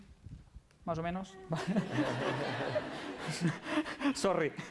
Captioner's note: non-english speech; laughter